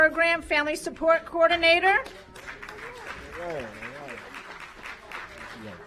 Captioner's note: applause